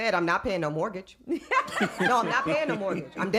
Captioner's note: laughing